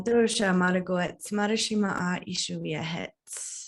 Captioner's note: non-english speech